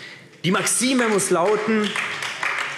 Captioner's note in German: Beifall AfD